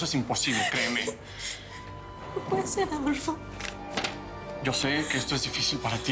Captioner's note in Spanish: Sollozando